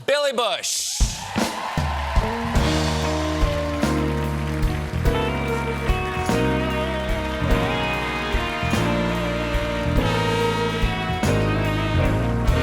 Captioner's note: cheers and applause; band playing